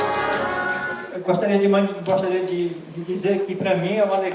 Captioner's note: non-english speech